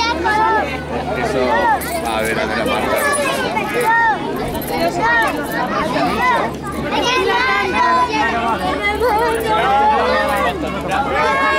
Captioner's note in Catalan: Renou ambient, alguns nens criden